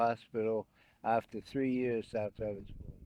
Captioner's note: wind blowing